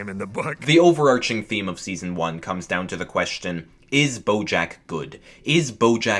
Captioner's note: voiceover